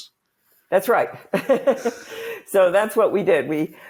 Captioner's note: laughs